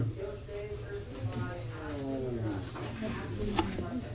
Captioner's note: whispers; tapping noises, door hinges groaning, people milling around